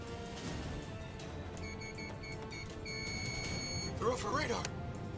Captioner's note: keypad beeping